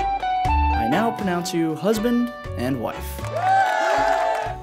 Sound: voiceover; cheering

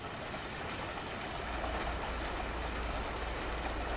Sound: water rushes

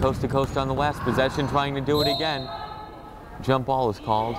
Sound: whistle blows

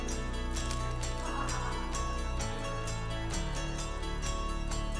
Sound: woman laughing in background

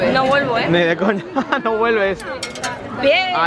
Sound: laughs

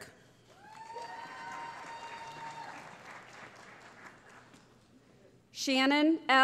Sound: cheering

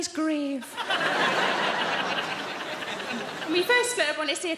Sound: audience laughing

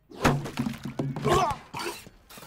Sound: gagging

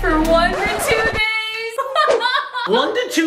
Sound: record Scratch

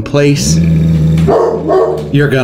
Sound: dog growls and barks

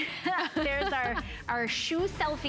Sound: laughter

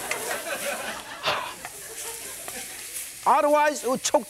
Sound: breathes hard; audience laughs; breathes hard

